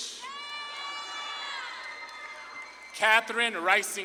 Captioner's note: audience claps and cheers